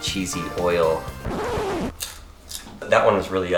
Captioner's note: record scratches